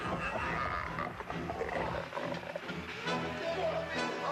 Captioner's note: undead moaning; dramatic music